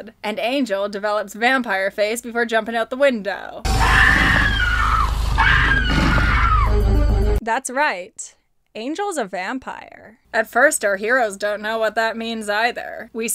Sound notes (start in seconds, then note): 5.2 screams